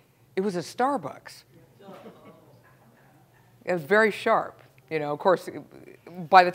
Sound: laugh

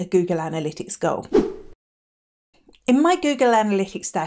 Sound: air whooshing

